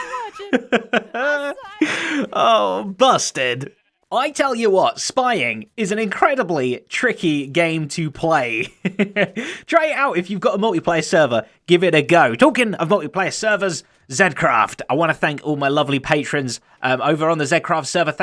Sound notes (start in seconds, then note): 0.0 laughs; 8.6 chuckles